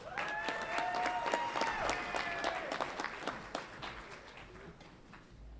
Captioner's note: audience applauds and cheers